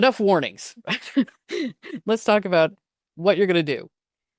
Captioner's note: laughs